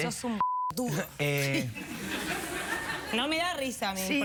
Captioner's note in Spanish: risas